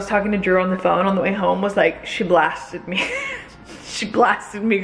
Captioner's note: chuckling